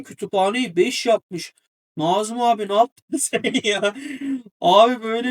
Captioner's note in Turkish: kahkaha